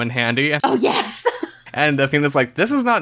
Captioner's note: laughs